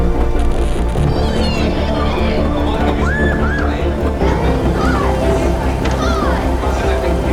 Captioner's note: people chattering; rain pattering